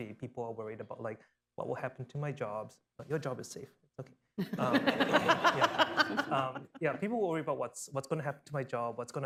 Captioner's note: laughter